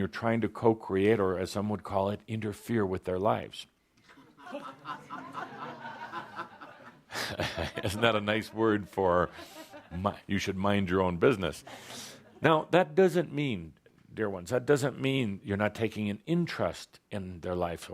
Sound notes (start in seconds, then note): 4.1 laughter; 5.9 chuckles